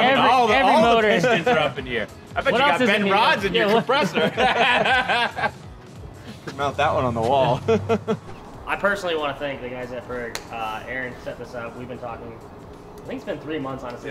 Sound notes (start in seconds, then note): 4.9 all laughing